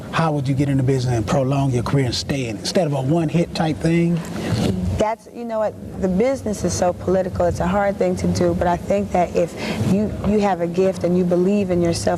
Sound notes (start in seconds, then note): none